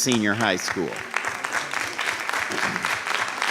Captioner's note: applause